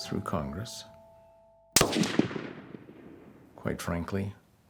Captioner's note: gunshot